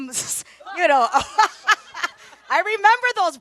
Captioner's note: panelists and audience laugh